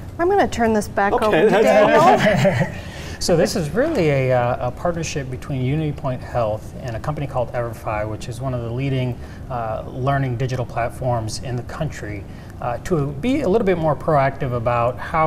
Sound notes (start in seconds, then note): 1.3 laughing